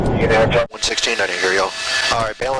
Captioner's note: radio chatter